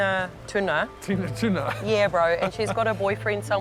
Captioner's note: laughs